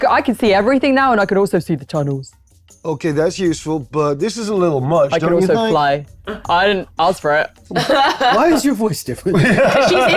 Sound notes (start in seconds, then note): 7.7 laughs